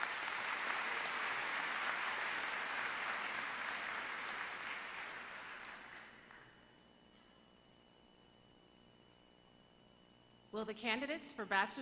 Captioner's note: applause